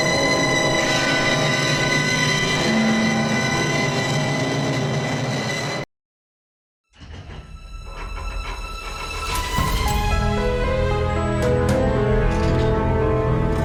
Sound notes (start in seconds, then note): 8.1 vault lock cranking; 10.7 dramatic music